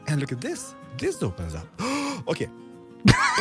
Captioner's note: gasps; laughs